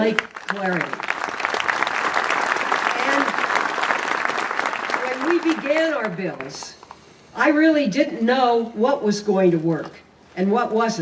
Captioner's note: applause